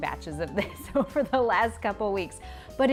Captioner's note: chuckles